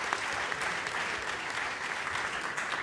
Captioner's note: applause